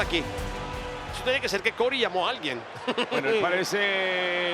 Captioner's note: laugh